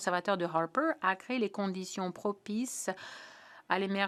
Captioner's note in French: voix de l'interprète